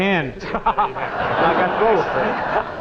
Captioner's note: audience laughing